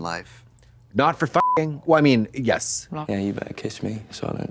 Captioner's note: beep